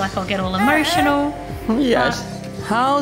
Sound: fussing

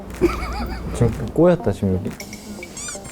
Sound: he's trying not to laugh; he is dying of laughing

